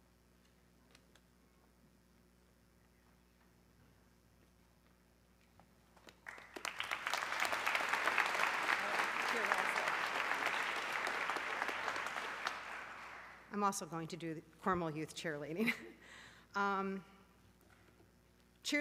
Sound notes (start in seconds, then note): 6.0 audience clapping; 17.8 laughs